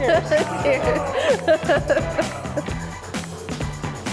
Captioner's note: laughs